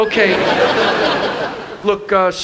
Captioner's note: audience laughing